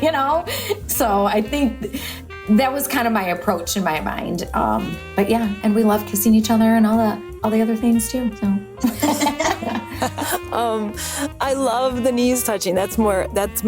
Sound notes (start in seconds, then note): 8.8 laugh